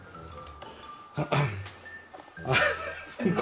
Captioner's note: clear his throat; laugh